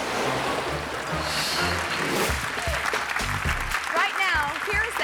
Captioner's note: audience clapping